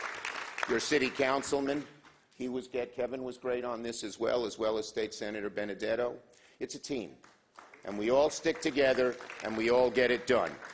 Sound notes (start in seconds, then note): 8.9 applause